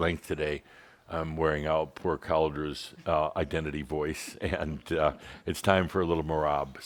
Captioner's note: chuckles